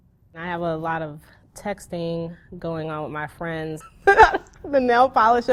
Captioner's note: laughs